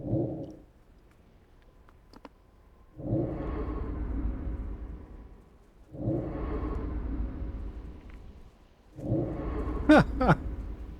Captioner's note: laughs